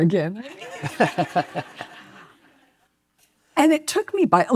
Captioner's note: and audience laughs